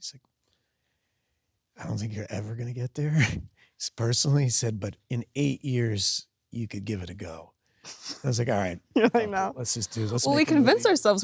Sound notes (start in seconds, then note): 1.8 laughs; 8.9 Sydney laughs